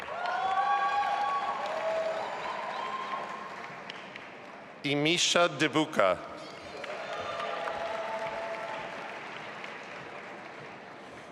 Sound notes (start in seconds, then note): 0.0 audience applauding and cheering; 6.6 audience applauding